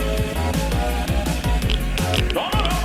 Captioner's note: geiger counter sounds